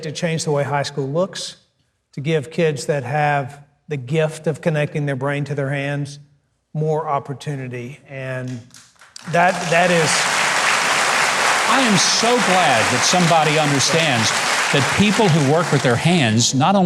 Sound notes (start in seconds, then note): 9.0 audience applauding